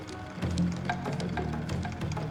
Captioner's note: clicking continues